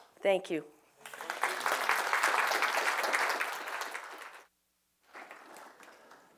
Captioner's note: applause